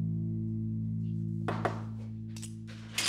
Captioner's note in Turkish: Kapı vuruldu